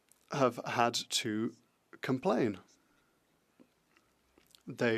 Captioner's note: speaking French